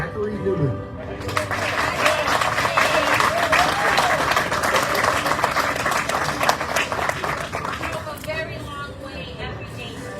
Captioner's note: audience cheering, applauding